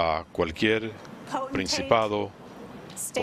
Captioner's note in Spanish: hablan en inglés